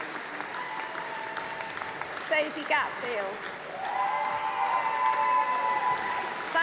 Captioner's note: applause